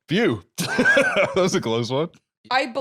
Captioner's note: laughs